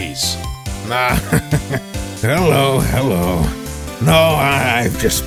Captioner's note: laughs